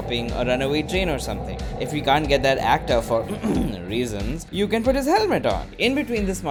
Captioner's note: ahem